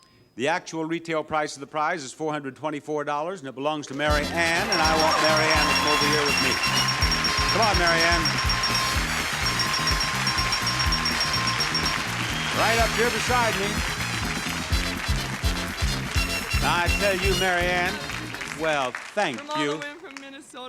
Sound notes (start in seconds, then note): 4.1 counter beeps; 6.7 audience cheers and applauds; 6.7 upbeat music; 10.2 counter beeps; 13.8 audience cheers and applauds; 13.8 upbeat music